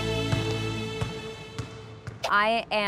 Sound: inspirational jazz; ball bouncing

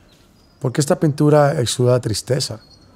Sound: speaking spanish

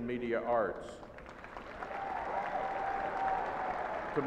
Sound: applauding

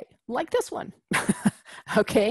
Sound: laugh

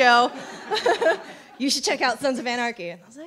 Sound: chuckles

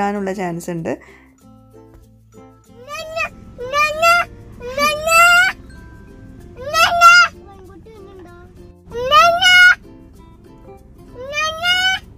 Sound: baby gibberish

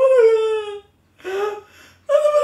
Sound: inhales

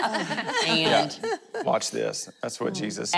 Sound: laughing

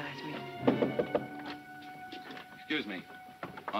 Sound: knocking

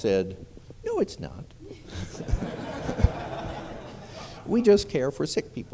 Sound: laughter

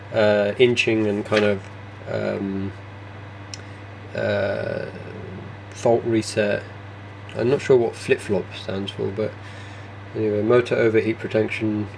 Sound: mumbling to self

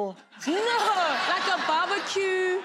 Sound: laughing

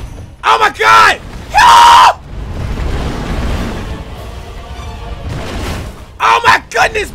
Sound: screams

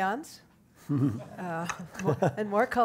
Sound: audience laughs

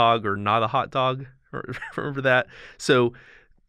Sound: chuckle

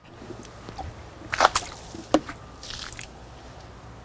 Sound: splashing

